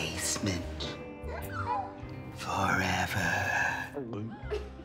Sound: gasps

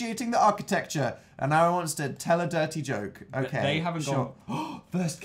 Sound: gasps

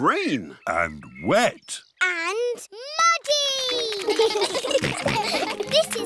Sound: children giggle

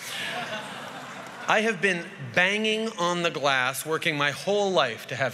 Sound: laughter

